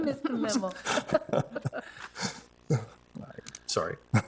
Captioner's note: people laughing